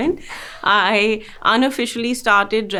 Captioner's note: Sonam laughing